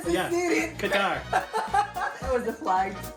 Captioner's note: laughs